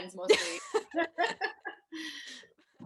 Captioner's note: they laugh